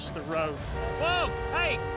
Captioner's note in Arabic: أصوات أبواق السيارات